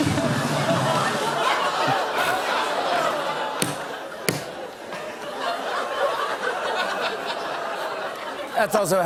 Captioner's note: laughter